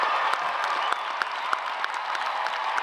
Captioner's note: cheers and applause